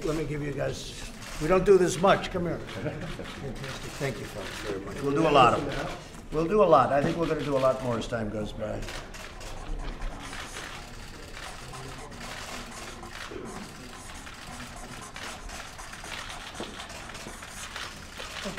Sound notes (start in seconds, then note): 2.7 laughter